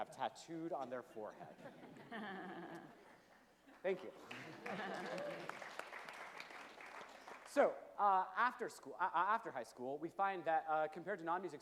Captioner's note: chuckles from panel and audience; applause and chuckles from panel and audience